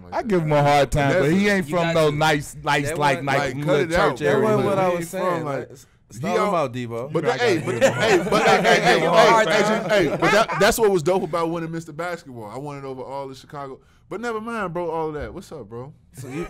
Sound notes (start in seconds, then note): 7.0 laughing and talking over each other; 16.2 laughing